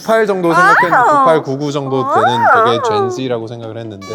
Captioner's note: giggles